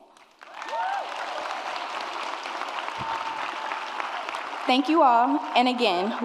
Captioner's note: audience cheers and applauds